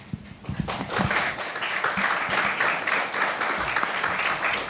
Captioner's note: audience applauding